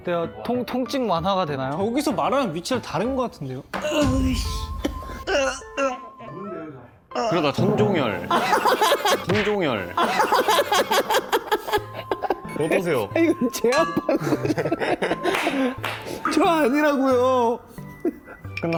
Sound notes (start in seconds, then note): 5.2 moaning